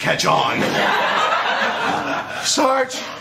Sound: laughter

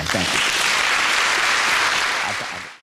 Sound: applause

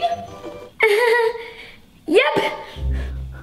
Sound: laughing

